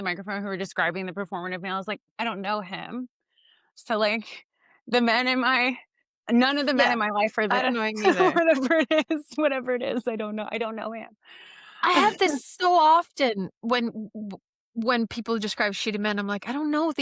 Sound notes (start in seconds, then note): 7.5 laughs; 11.8 laughs